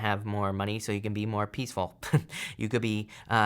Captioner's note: chuckles